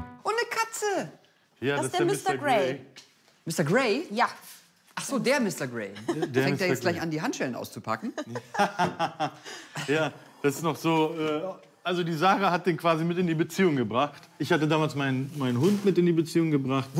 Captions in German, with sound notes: Und 'ne Katze! - Das ist der Mr Grey. Mr Grey? - Ja. Ach so, DER Mr Grey! Packt der gleich Handschellen aus? (Lachen) Ja. Das ist noch so ... Sarah hat den mit in die Beziehung gebracht. Ich hatte damals meinen Hund mitgebracht.